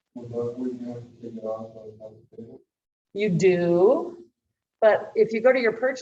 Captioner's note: background chatter